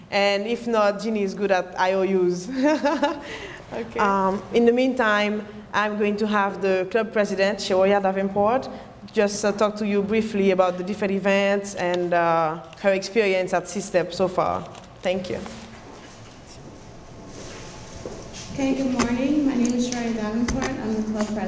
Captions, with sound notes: and if not Jeannie is good at IOUs (laughs) In the meantime I'm going to have the club president Sharon Davenport just talk to you briefly about the different events and her experience at CSTEP so far. Thank you. - Ok and good morning, my name is Sharon Davenport,